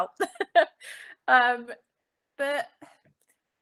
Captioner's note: laughing